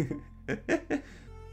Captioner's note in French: Rires